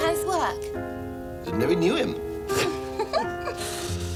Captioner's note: simpering